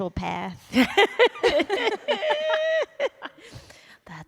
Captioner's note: laughter